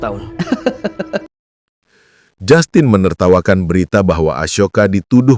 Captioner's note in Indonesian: tertawa